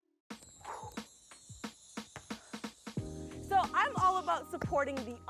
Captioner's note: sighs